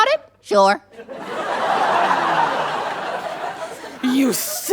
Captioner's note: audience laughs